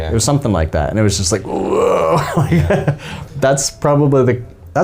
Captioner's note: moaning noises